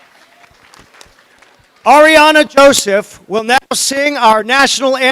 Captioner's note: applause